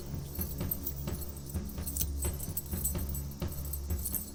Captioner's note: chains rattling